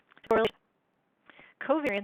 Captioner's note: glitching speaking